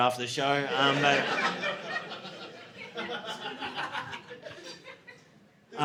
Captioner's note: audience laughing